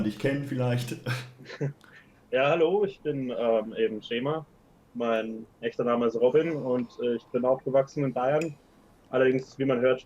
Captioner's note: laugh